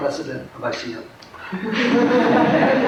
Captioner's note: laughter